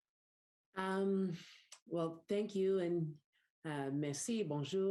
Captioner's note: speaks in French